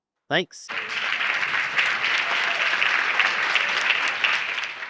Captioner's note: audience applauding